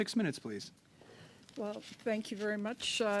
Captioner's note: speaking French